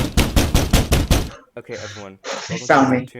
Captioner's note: sound of someone pounding on the door